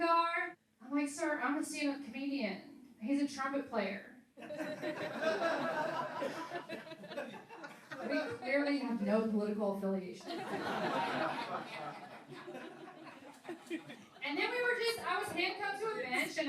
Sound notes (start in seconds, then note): 4.4 laughing; 10.2 laughing